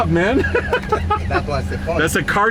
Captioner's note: chuckles